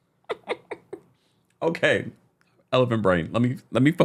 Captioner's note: laughing